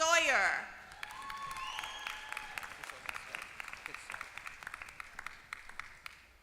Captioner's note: applause